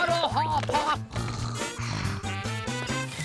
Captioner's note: snore snore